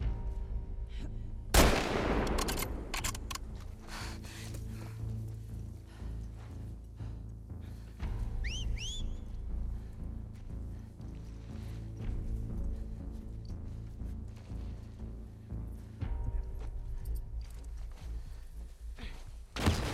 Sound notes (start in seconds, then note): 8.3 whistle